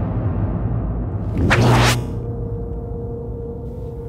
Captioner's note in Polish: dźwięk prawie jak mieczy świetlnych jednakże nie taki sam